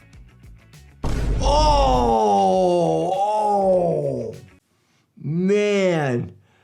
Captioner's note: doctor groans; thunder crashes